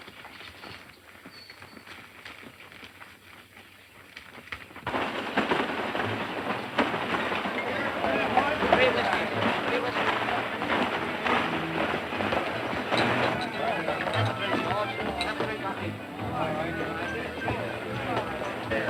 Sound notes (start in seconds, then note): 5.4 animated conversations; 5.4 rattling wagon wheels